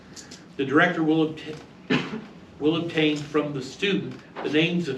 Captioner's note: stammers